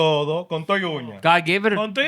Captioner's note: speaking Spanish